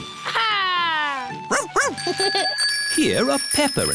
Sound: giggles

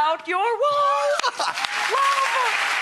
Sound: everyone claps

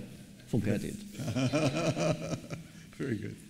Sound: laughs

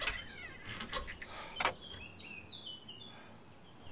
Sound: door creaks; latch clicks

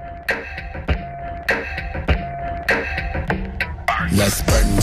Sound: clap

